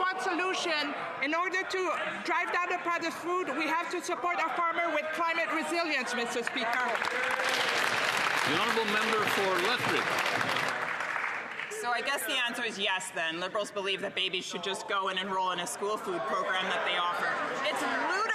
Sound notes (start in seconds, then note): 12.7 some Applause